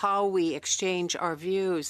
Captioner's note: speaking French